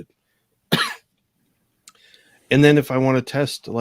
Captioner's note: coughs